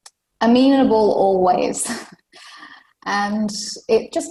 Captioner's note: laughs